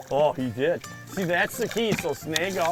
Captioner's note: voiceover